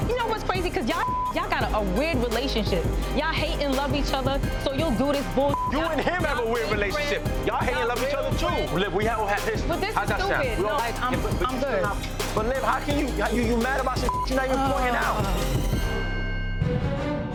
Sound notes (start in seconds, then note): 1.0 beep; 5.4 beep; 14.0 beep